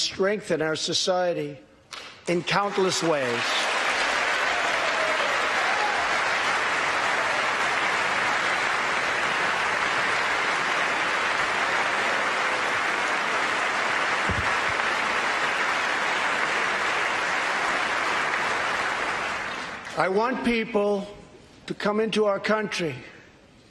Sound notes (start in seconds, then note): 7.0 applause